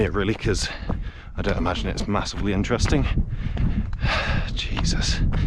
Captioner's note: sighs